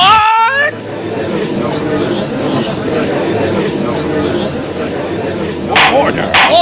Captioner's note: gallery chattering